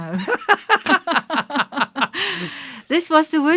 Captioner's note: both laughing